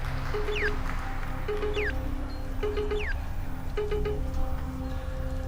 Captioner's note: beeping